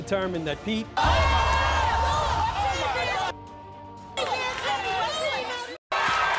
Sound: cheers

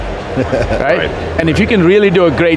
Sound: laughs

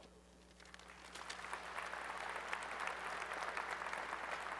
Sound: applause

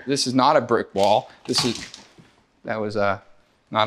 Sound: wood clatters

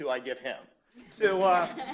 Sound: laughter

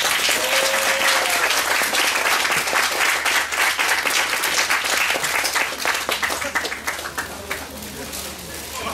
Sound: applause

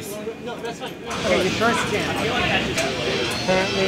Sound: chatter

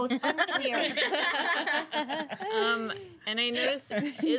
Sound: girls laughing

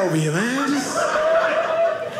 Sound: audience laughing

